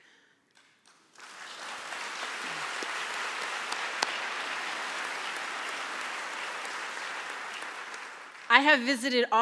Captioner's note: applause